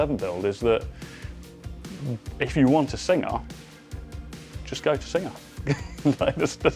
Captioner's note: laughs